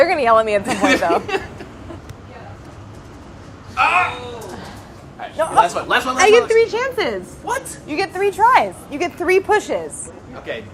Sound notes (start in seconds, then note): 0.6 laughing